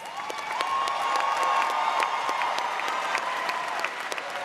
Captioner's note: audience applauding